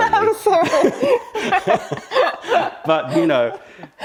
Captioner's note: laughter